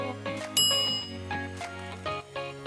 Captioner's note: upbeat music; bell dings